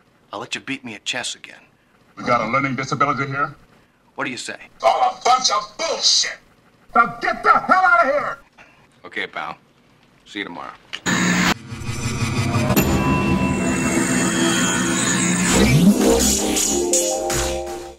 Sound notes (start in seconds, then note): 11.0 loud static; 12.8 ding!!!; 15.4 sultry music